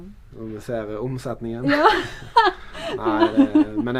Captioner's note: haha